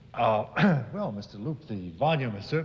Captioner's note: ahem